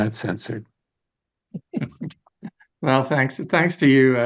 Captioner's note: all laughing